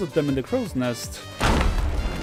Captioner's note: explosion sound